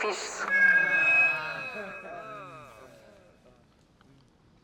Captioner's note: feedback, groaning